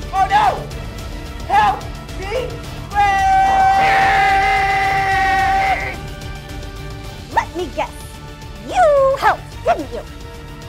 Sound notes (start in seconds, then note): 2.9 screaming; 2.9 screams; 5.7 tense music